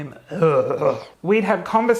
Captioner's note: gagging loudly